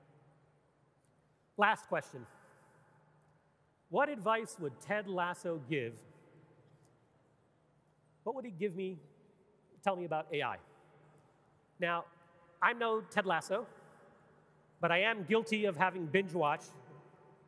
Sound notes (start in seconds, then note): none